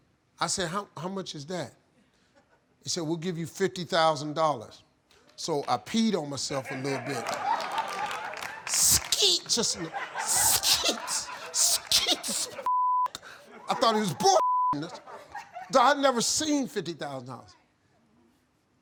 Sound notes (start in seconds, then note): 6.6 audience laughing; 12.6 beep; 14.4 beep